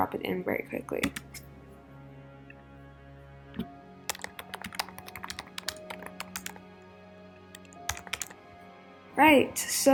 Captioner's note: keyboard sounds